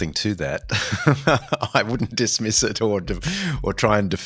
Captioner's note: laughs